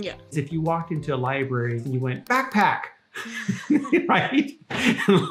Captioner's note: laughs